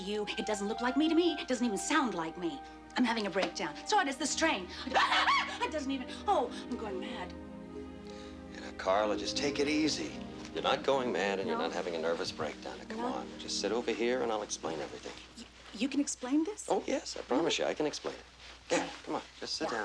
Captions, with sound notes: Does that look like me to you? It doesn't look like me to me. It doesn't even sound like me. I'm having a breakdown. That's what it is, the strain. [cackles] That doesn't even-- oh, I'm going mad. Now, Carla, just take it easy. You're not going mad, and you're not having a nervous breakdown. - I'm not? - Now, come on. Just sit over here, and I'll explain everything. You can explain this? Oh, yes, I promise you. I can explain it.